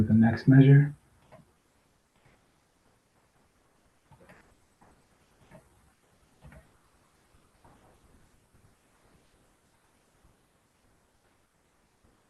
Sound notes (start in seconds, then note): 1.8 pause